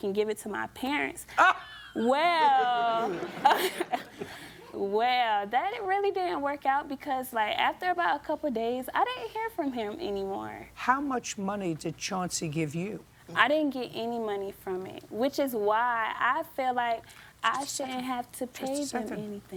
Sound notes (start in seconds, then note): 1.4 laughs; 1.9 laughter